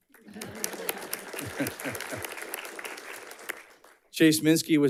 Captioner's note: audience clapping